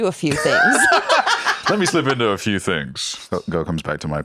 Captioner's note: laughs